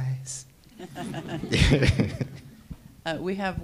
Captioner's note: panel laughs